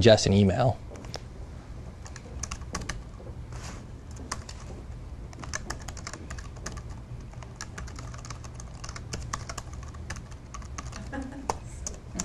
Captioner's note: typing